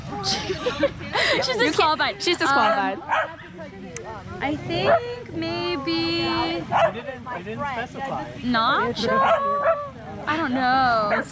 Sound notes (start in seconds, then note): 0.2 laughing; 6.6 dog barking; 9.0 dogs barking; 9.1 dog barking